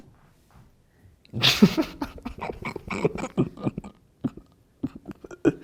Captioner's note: laughing